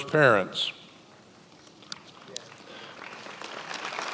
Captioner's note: many applauding